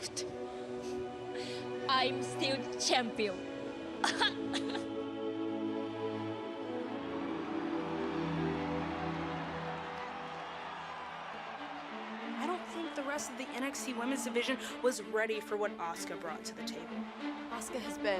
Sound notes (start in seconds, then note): 4.0 chuckling